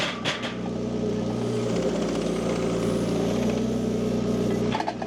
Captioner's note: wood clanging; machine rumbling